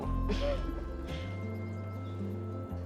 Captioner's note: Joe laughing